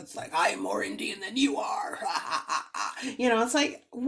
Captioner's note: laughs